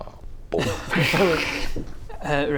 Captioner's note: laughs